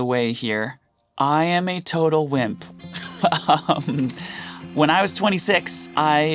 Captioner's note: laughs